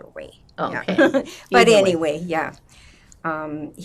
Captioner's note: laughing